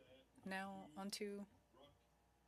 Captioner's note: speaking French